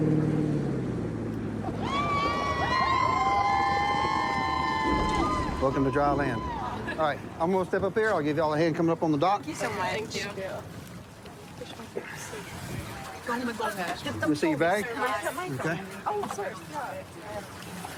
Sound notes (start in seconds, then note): 0.0 laughs; 1.6 cheers